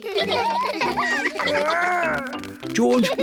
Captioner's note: all laugh